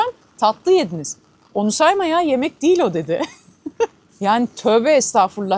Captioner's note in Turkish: kahkaha